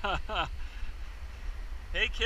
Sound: chuckles

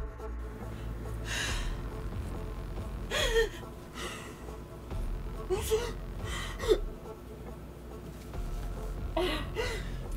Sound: crying

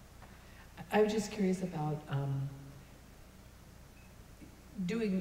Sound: voiceover

